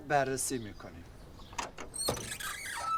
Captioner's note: door screeching